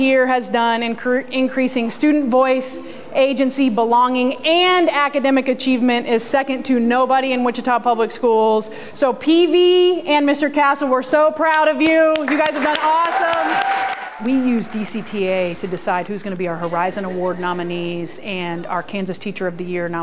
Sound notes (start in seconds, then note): 12.2 cheering/applause